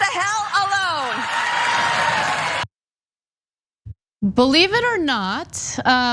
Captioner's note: applause